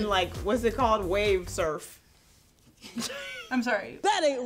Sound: chuckles

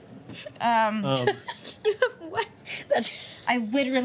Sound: laughing

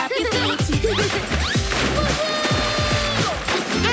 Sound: laughing

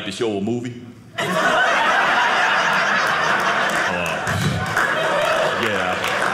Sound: audience laughing

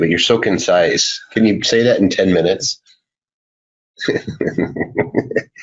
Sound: laughs

